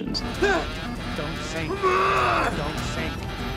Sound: pilot panicking

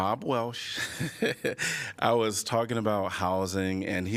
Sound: laughter

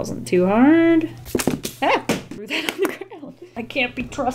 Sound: stuff falling

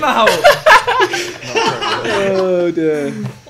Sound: laughs

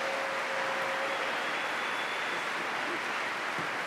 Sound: applause

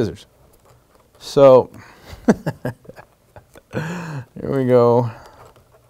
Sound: laughing

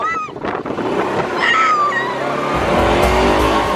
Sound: squealing; exciting Arabic music

